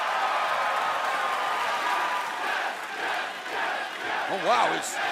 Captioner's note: crowd cheering